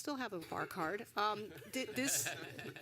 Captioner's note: laughter